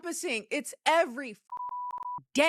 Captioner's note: beep